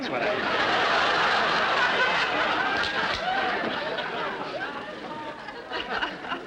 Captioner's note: audience laughter